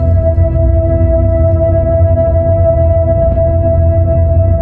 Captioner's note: eerie ringing